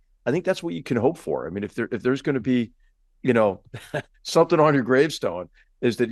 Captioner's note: laugh